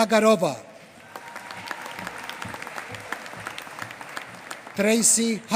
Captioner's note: applause